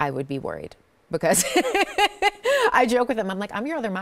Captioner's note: laughs